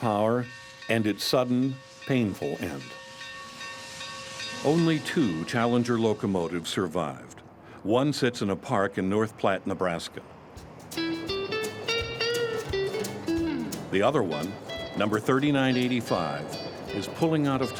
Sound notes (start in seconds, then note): 3.8 train crossing bell; 13.0 guitar playing